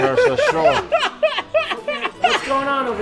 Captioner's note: group laughs